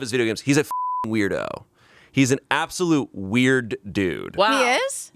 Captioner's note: beep